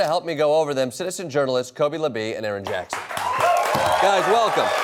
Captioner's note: applause and cheering